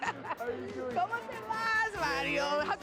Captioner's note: speaking Spanish